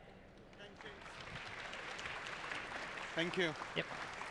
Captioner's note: applause